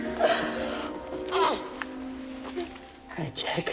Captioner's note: coos